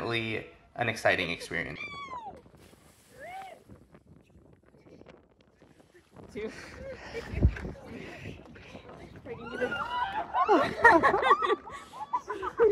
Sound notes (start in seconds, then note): 3.1 woooo; 3.3 hahahaha